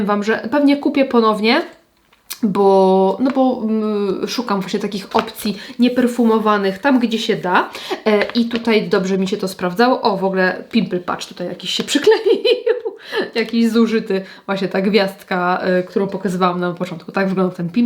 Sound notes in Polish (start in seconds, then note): 12.0 śmiech